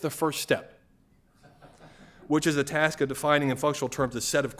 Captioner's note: laughter